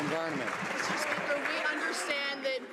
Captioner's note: some Applause